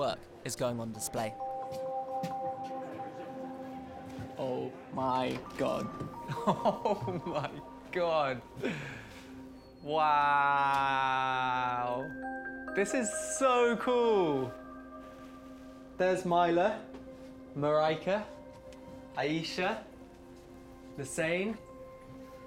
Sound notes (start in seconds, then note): 6.2 laughing